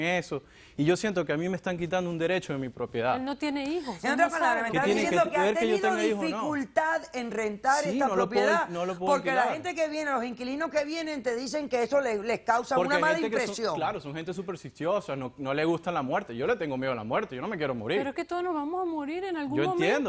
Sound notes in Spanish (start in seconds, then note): 5.6 Hablan al unísono